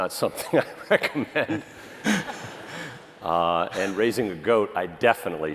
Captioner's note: laughter